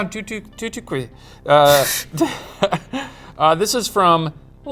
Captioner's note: both laugh